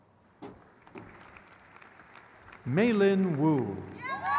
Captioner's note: crowd cheers